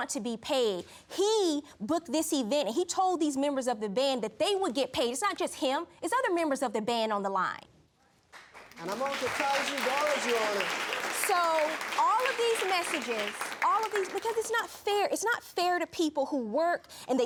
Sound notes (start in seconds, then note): 8.3 applause